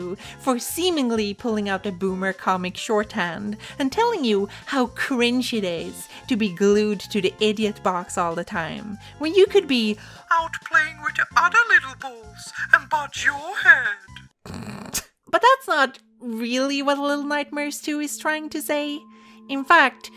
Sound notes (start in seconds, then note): 14.3 snicker